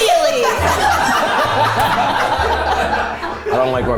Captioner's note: everyone laughs